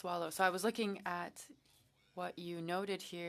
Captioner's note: speaking French